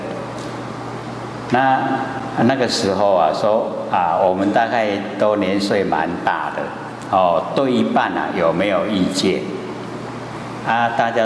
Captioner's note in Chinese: 台語